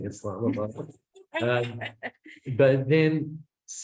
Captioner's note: laughs